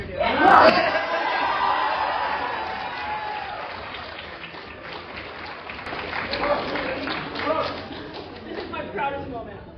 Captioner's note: applause